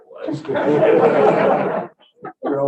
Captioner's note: laughter